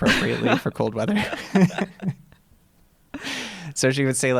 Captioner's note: laughter